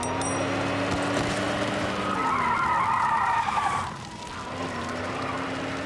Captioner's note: none